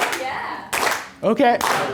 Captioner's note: voiceover